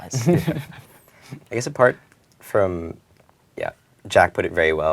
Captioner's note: laugh